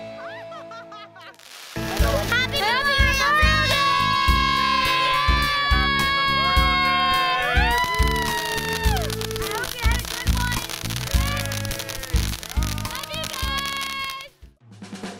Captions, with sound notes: (laughter) - Happy Memorial Day! - Happy Memorial Day! (popping) - I hope you had a good one. - Love you guys!